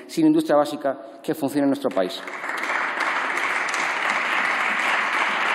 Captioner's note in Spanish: Aplausos